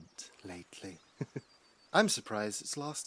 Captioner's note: lucius laughs dryly